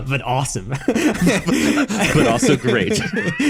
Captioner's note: both laughing